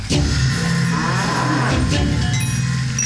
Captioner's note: Bellows